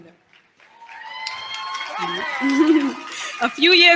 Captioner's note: cheers, applause